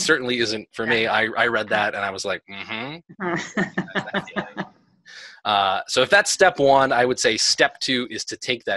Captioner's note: laughter